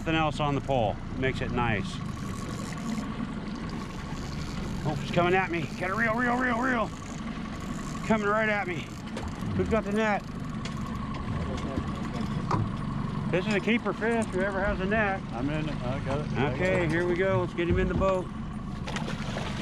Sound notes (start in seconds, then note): 2.4 reel cranking; 7.2 reel cranking; 10.5 boat engine idling